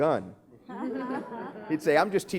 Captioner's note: laughing